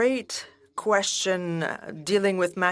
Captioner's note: speaking French